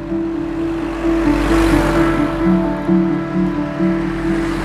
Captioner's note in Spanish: Motor de camión traqueteos